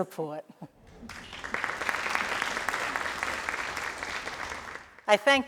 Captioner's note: crowd applauding